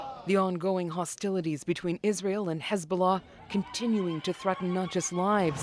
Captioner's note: crowd noise